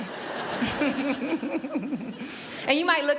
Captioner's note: laughs